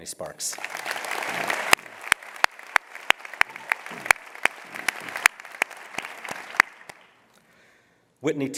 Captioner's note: applause